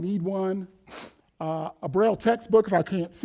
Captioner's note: sniffs loudly